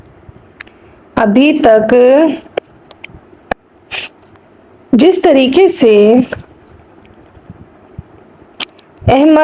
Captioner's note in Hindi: नाक से की जाने वाली आवाज़